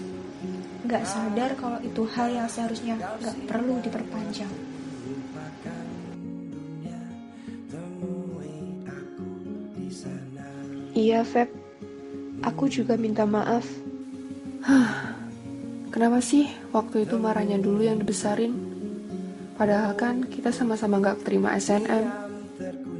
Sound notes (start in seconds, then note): 14.6 sigh